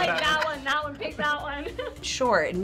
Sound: laughs

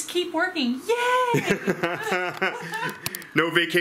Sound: laughs

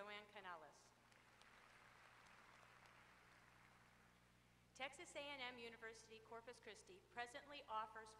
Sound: applause

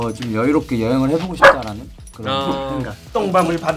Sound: puppy barks

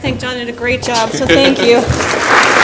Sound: laughs; audience applauds

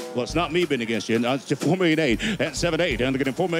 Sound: auctioneer calling

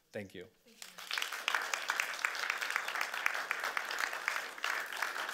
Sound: audience clapping

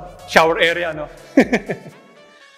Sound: laughs

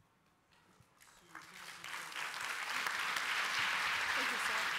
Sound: applause

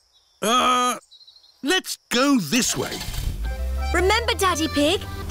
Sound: starts engine

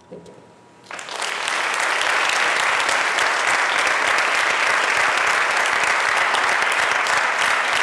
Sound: applause

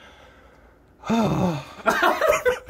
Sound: deeo sigh

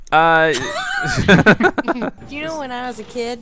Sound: laughs; voiceover

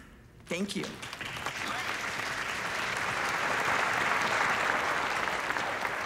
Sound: audience applauds

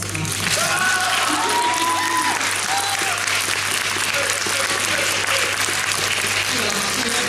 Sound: applause

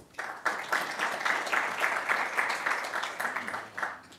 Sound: applause

